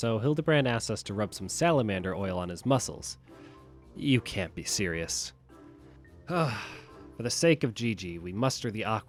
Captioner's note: sigh